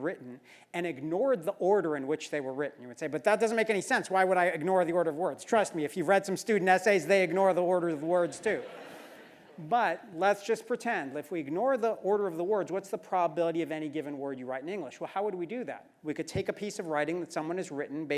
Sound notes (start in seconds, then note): 8.2 laugh